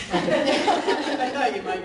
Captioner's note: laughing